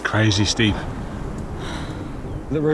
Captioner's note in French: soupir